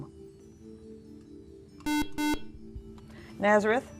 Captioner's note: buzzer